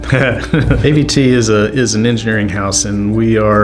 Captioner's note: chuckles